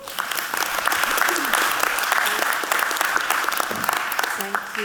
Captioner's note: audience clapping